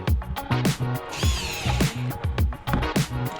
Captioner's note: drill whirring